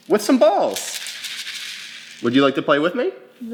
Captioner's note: balls rattling